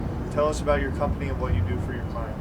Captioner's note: male Voice